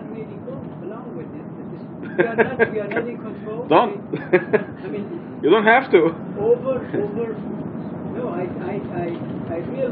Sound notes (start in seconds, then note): 4.1 gülüyor